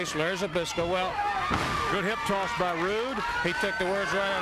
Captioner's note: body thudding